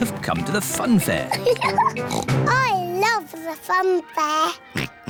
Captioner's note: giggles and oinks; oinks